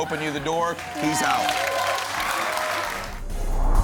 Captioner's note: applause